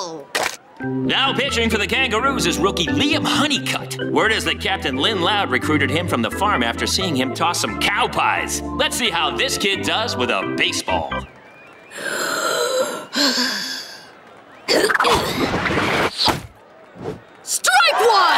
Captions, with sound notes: Now pitching for the Kangaroos is rookie Liam Hunnicutt. Word is that captain Lynn Loud recruited him from the farm after seeing him toss some cow pies. Let's see how this kid does with a baseball. [grunting] Strike one!